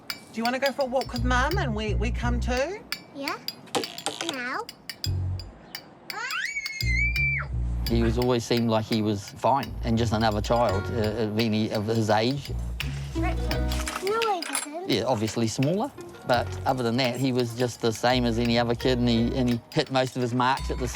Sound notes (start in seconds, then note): 6.0 squeals